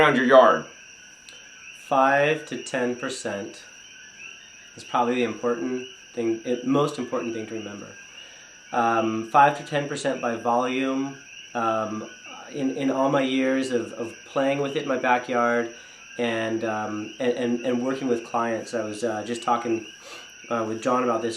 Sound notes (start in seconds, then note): none